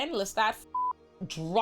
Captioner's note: beep